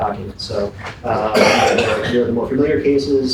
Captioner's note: coughing drowns out speaker